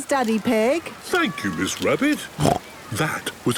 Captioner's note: snorts